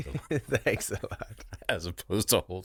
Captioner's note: laughs